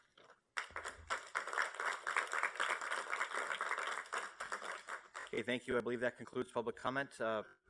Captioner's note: applause